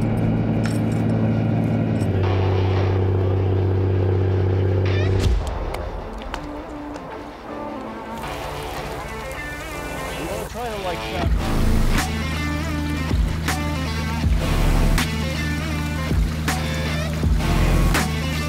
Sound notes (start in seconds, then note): 3.1 truck engine roaring; 11.6 upbeat music